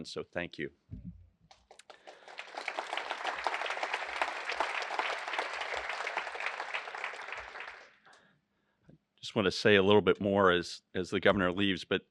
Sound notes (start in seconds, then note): 1.5 applause